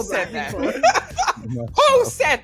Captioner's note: laughter